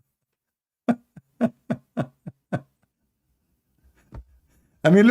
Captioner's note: Ketawa